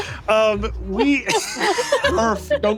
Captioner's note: laughing